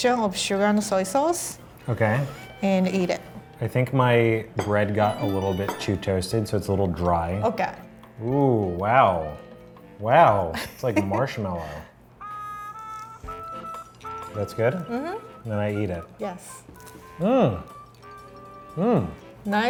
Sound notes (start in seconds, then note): 12.2 horn music; 17.7 chewing